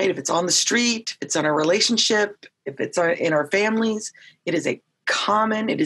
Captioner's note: none